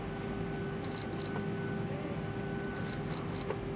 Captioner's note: machine whirring